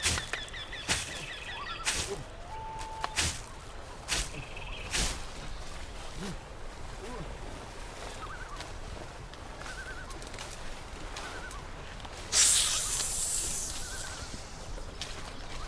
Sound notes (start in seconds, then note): 12.3 snake hissing